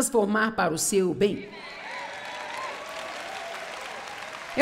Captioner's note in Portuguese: audiência aplaude